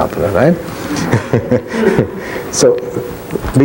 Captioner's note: laughs loudly